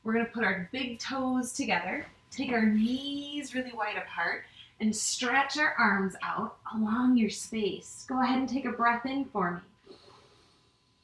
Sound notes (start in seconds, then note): 9.8 inhales